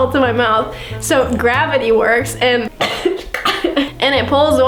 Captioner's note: coughing